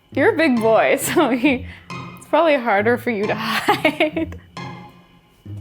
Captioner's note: laughs